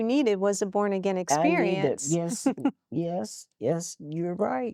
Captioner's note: giggling